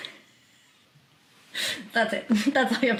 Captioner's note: chuckles